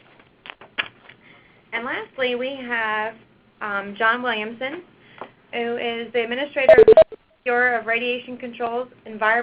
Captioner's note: beeping